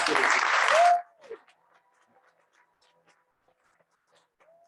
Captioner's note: crowd applauses